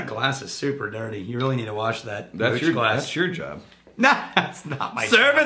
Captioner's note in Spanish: Riéndose